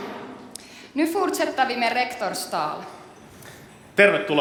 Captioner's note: speaks Swedish